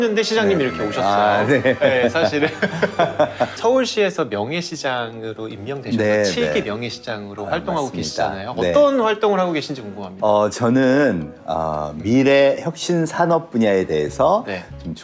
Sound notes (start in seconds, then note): 1.4 laughter